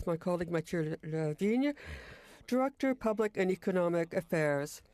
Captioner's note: speaking French